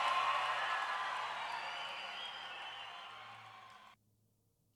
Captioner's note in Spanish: multitud aplaudiendo